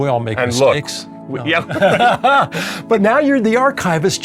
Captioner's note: laughing